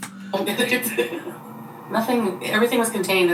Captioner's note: laughs